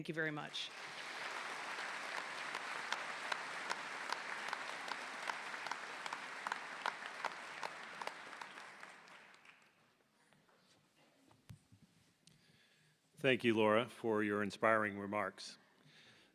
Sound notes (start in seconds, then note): 6.7 applause